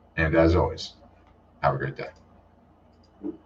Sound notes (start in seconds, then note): 2.9 mouse clicking